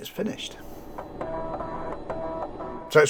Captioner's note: floppy disk noises